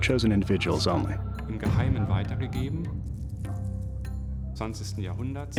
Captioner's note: non-english speech